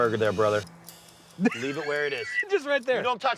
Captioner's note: laughing